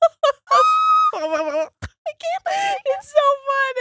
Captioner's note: laughing